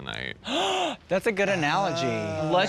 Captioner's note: gasps